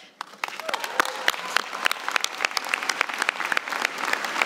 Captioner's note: applause